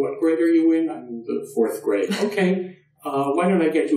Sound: laughs

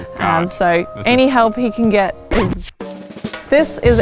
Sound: record scratching

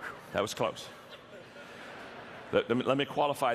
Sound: audience laughter

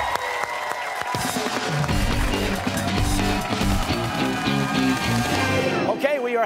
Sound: cheers and applause

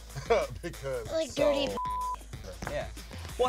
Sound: beep

